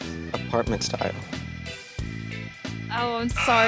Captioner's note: buzzer